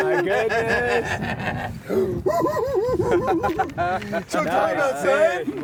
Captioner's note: hoo-hoo hee-hee